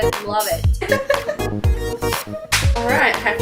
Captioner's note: laughs